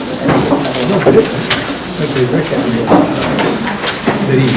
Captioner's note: attendees chattering